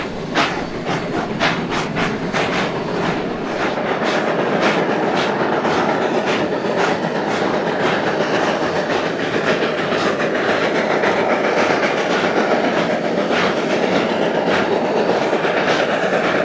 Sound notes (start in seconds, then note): 6.8 heavy rotary chugging